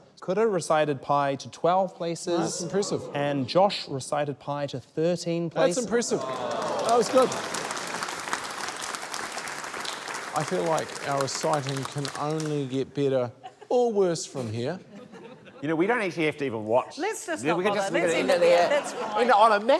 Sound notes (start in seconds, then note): 6.1 applause